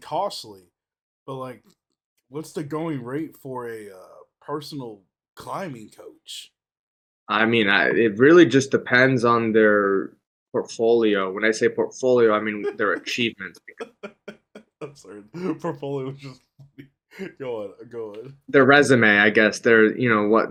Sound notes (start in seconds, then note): 12.3 laughs